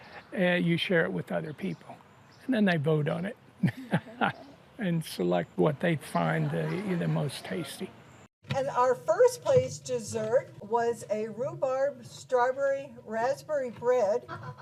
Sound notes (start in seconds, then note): 3.6 laughing